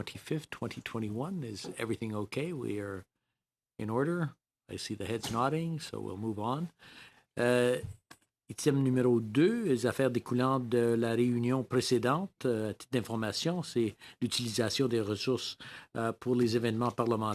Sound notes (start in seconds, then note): 15.4 speaking French